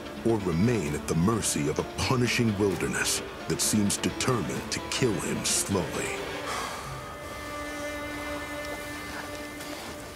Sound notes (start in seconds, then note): 6.4 exhales; 9.1 tense music